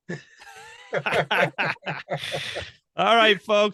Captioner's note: laughing loudly